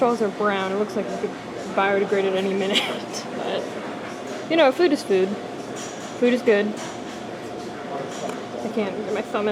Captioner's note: laughs